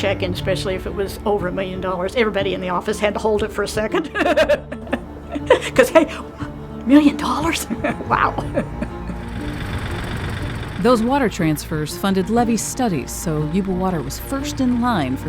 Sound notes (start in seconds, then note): 6.8 laughing; 8.8 machine running